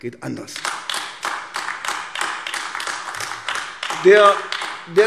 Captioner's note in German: Beifall AfD